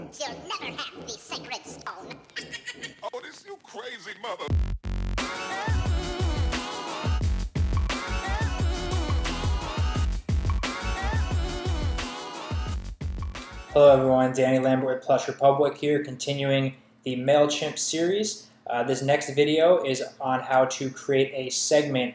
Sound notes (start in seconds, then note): 2.3 high pitched laughter; 4.7 upbeat hip hop music plays